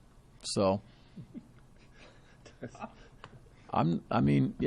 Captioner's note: laughter from all